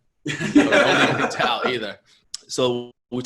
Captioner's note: laughter